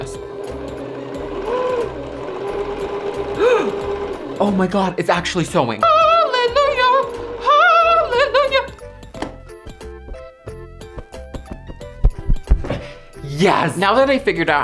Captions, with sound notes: (machine whirring) (gasps) Oh my God, it's actually sewing. (singing) Hallelujah, hallelujah Yes. Now that I figured out